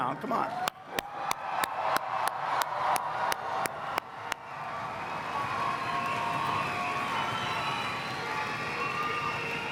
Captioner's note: applause